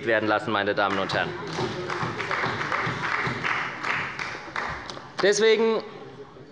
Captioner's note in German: Beifall bei der SPD